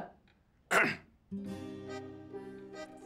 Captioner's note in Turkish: Öksürüyor